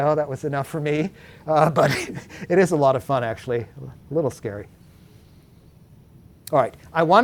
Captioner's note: laughs